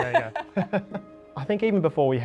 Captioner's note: both laughing